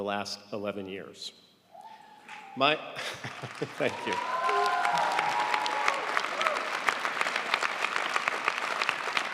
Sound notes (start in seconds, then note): 3.0 audience applauding